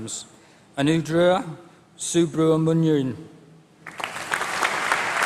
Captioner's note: applause